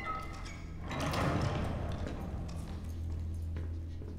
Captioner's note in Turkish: Ayak sesleri; Kapı kapanma sesi